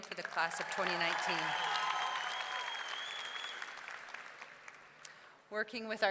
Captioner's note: audience clapping; audience cheering